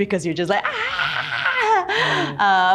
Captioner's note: screaming